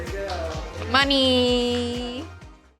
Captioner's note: clapping